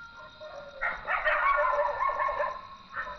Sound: dogs barking

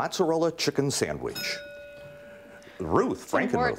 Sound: dings

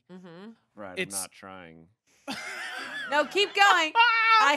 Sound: laughing

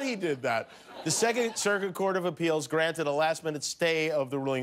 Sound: laughter

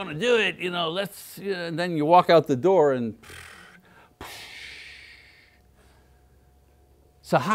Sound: deflate sound

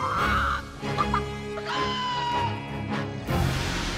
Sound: screaming cluck

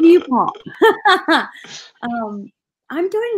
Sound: laughing

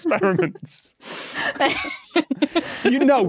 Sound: group giggling

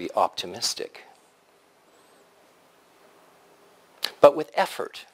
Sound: pause

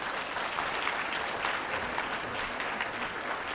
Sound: applause

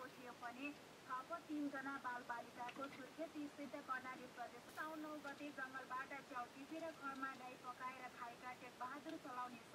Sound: radio news

